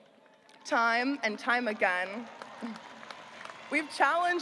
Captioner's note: audience applauding